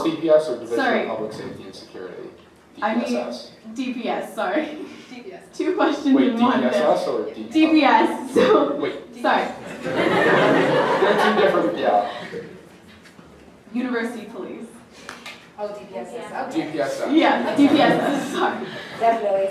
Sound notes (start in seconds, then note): 9.6 audience laughing